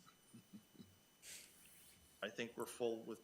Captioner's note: attendees chuckling